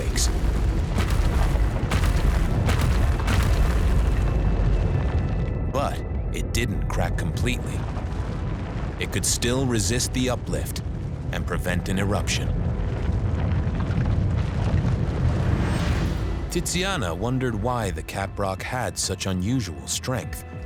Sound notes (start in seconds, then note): 0.1 rock crumbling, explosions echoing; 13.1 rock crumbling